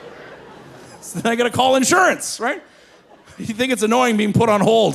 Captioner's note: laughing